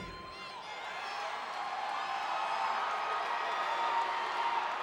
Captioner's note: crowd cheering